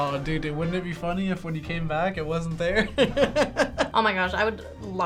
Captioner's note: laughs